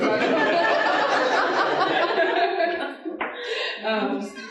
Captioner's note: audience laughing